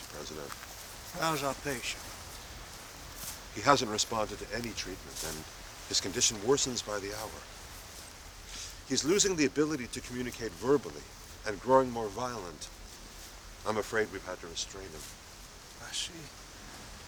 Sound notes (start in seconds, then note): none